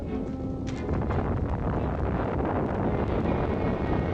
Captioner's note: volcano rumbling; suspenseful music